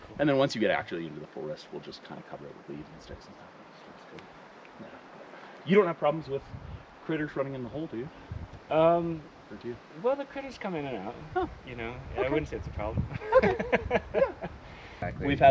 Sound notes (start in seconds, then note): 13.1 laughs